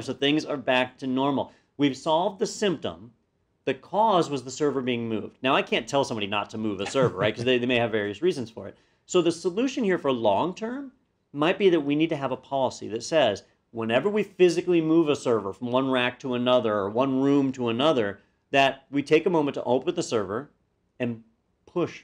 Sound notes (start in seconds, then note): 6.8 laugh